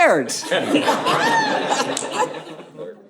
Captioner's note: audience laughing